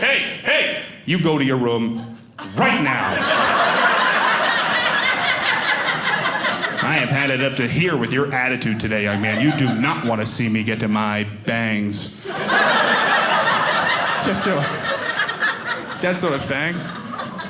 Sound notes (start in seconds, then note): 2.4 audience laughing; 12.2 audience laughing